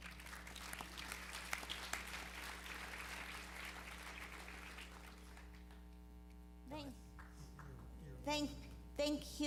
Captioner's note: applause